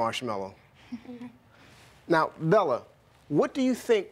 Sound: giggling

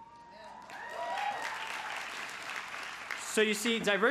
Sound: crowd cheers

